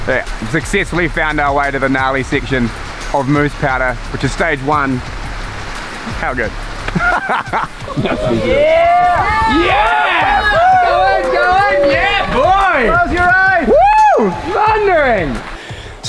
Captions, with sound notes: We have successfully found our way to the allay section of moose powder, which is stage one. How good. (Cheering sounds) - Yes boy! - Close your eyes! - Wondering!